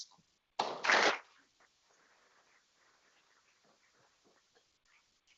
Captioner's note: people clapping